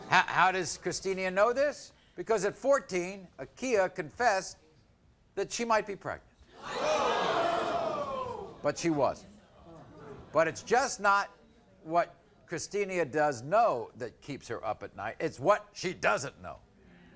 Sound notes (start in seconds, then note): 6.5 audience groans